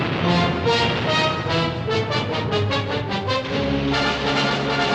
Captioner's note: artillery firing; taut energetic music